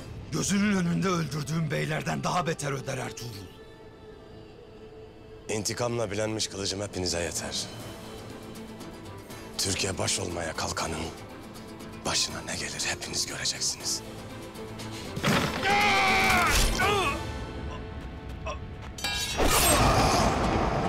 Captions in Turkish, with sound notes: ...gözünün önünde öldürdüğün beylerden daha beter öder Ertuğrul. İntikamla bilenmiş kılıcım hepinize yeter. Türk'e baş olmaya kalkanın... ...başına ne gelir hepiniz göreceksiniz. (Bağırma sesi) (Ok fırlatma sesi) (Kılıç sesi)